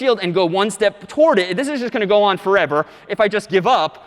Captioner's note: none